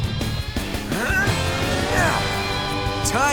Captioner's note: grunting